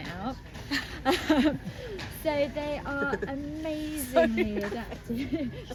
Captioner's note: laughs